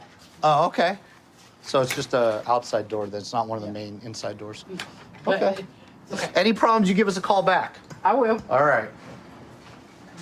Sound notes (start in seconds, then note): none